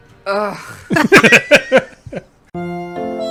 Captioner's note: laughs of Pure Delight